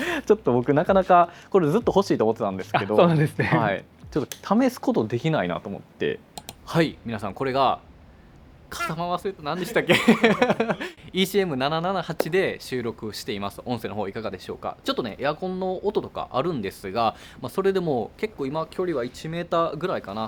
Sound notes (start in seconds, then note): 9.6 laughs